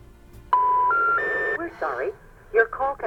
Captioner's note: phone error tone beeps